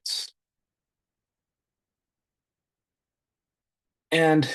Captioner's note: silence